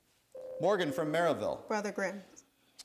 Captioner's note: buzzer sounds